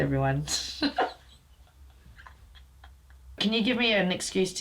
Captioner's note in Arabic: يضحك